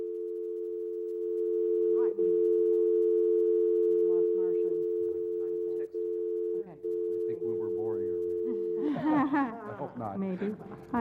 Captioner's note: laugh